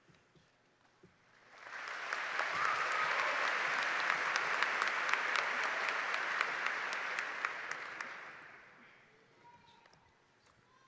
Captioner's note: applause